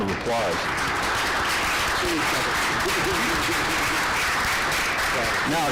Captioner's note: applause